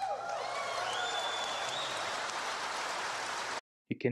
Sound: applause

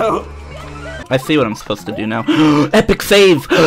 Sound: gasp

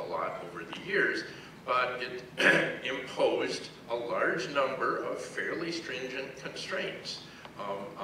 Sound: cough

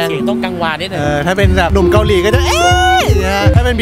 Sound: high pitched scream

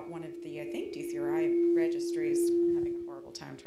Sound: microphone feedback drowns out her voice

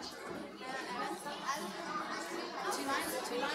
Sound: kids chattering

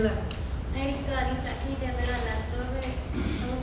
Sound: talking

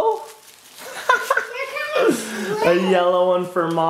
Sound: laughing

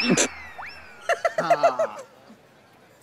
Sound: giggling

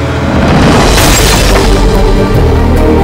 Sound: bang

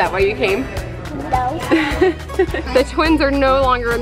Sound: chuckling

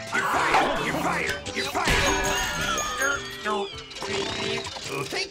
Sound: stammering

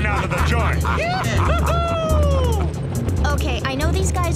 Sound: laughing and cheering

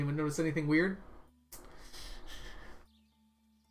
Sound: chuckles

